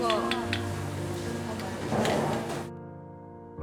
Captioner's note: hesitates